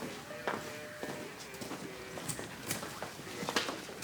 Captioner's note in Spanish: bullicio en el lugar